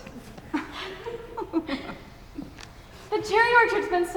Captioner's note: chuckles